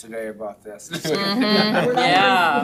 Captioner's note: laughing